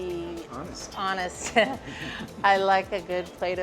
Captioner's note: chuckles